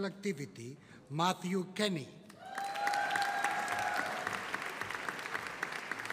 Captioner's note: audience applauding